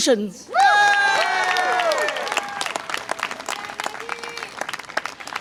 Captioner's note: audience applause and cheer